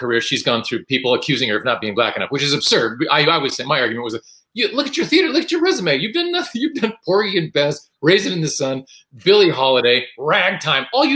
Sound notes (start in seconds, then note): none